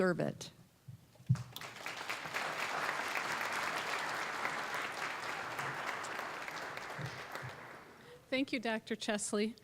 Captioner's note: applause